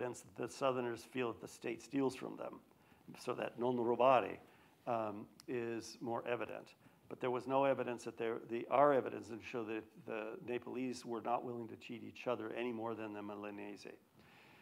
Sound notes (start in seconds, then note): 3.8 speaks foreign language